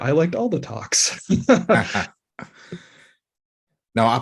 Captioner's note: laughter